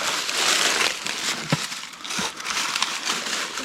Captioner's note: leaves crunching